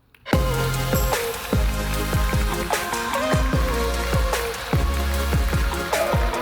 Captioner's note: uptempo electronic music; audience applauding